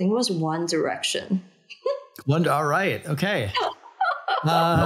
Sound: laughing

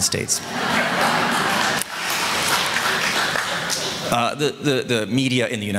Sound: audience Clapping, and Laughter

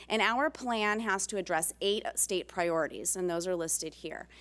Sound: none

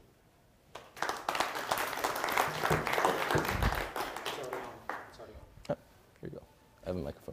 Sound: applause

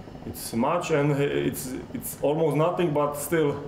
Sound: none

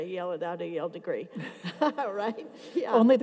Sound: laughs

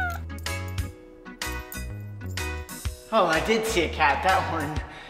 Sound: Duffy meowing

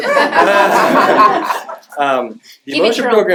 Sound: laughter

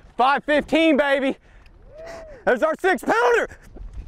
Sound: crowd cheering

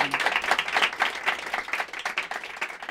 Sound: applause

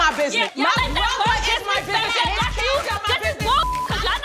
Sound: all shouting; beep

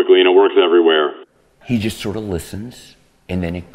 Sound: voiceover

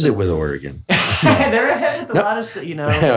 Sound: laughs

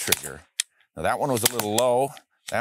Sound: shot fires

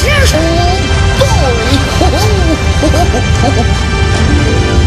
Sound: chuckle

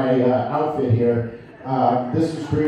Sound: laughter

